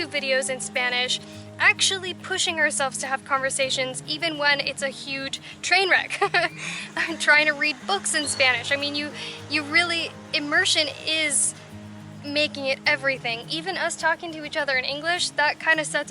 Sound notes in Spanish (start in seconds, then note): 6.1 Risas